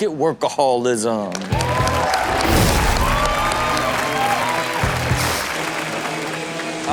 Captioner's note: audience cheering and applauding